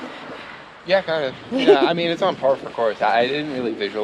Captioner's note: laughs